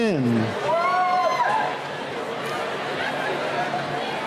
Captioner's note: cheering